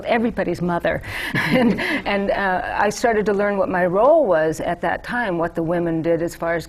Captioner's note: laughter